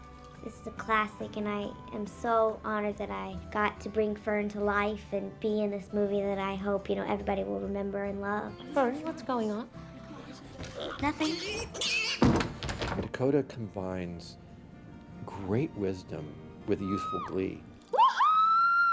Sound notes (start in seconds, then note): 10.7 pig squealing; 17.8 whooping